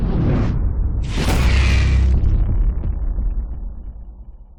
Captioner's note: flames blasting